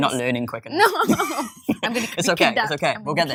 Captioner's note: laughs